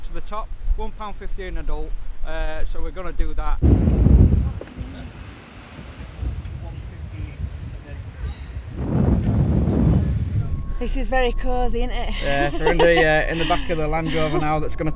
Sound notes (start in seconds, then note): 3.4 laughing